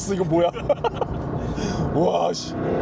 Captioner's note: hahahahahaha